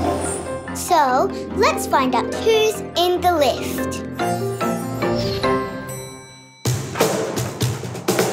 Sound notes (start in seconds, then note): 5.8 lift door bings; 6.6 drumming